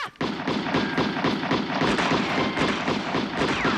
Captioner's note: guns firing